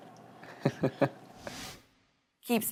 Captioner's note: laughs